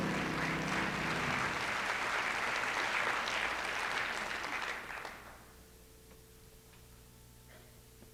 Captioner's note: applause